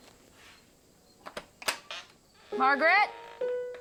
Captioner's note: door opens